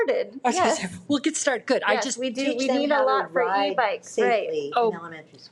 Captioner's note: people chattering